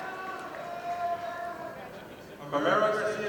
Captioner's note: audience applauding